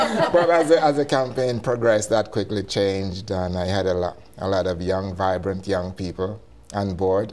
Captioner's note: laughter